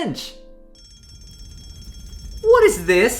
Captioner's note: fire alarm is ringing